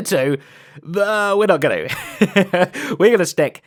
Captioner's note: laughs